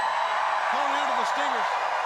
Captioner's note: crowd cheering